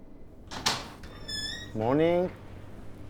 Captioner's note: door clicking